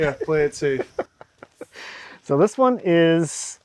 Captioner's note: laughing